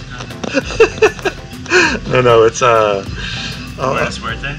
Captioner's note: laughing